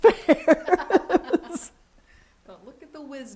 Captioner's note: laughs